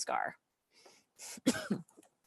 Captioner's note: coughs